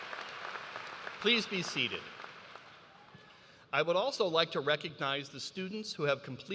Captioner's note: applause